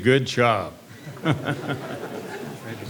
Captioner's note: laughter